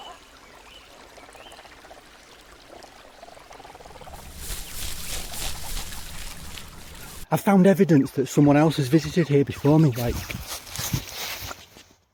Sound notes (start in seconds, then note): 3.6 alien birdsong